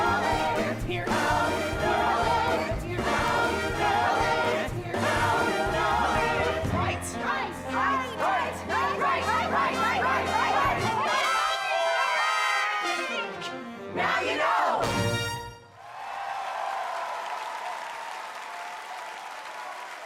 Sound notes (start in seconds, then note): 12.4 incoherent yelling; 15.7 audience cheering